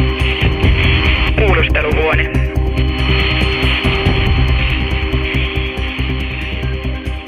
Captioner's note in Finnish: Radiopuhelimen rätinää ja tunnusmusiikkia; Radiopuhelimesta